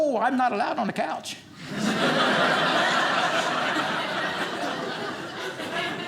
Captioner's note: audience laughing